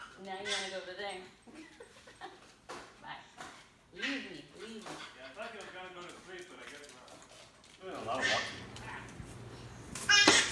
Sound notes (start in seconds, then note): 1.5 laughing